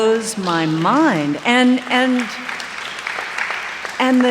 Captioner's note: applause